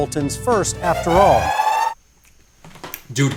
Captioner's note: siren